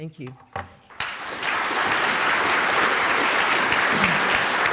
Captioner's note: audience applauding